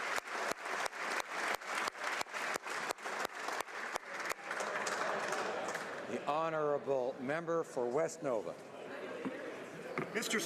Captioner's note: applause